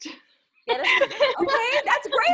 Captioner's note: laughs